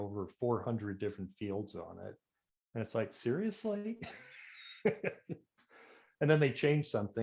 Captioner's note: laughs